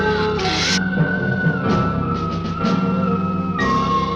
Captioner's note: lizard hissing